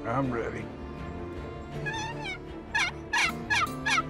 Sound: turkey call

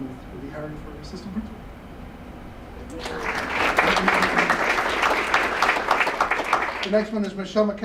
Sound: applause

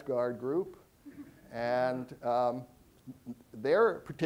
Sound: audience chuckling

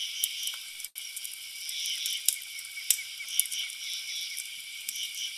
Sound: birds chirping

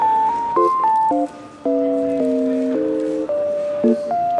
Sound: paper crinkling

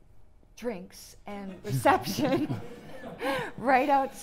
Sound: audience chuckling

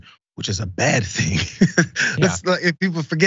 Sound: laugh

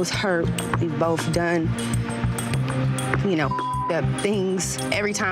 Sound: beep

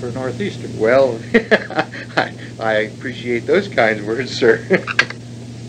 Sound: laughs

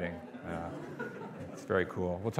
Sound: audience laughing

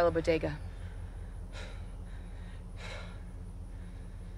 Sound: taking deep breaths

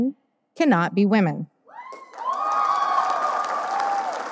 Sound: audience cheering; audience applause

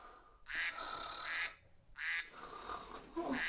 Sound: human and dog snores; duck quacking

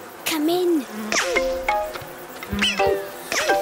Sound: insects buzzing

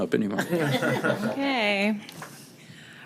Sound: everybody laughing

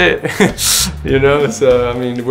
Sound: laughs

